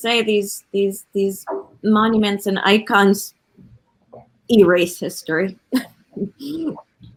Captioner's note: laughs